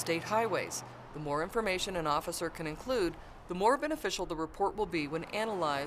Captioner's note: sounds of vehicles driving on road